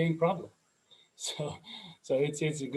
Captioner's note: laughs